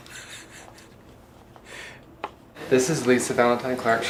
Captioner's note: laughing